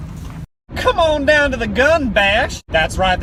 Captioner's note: ridiculous southern accent